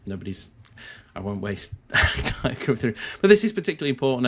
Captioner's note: laughs